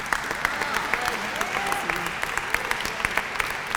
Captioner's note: applause